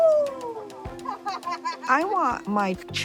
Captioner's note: laughs